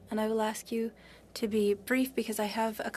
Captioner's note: speaking french